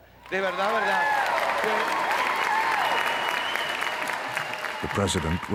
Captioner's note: applause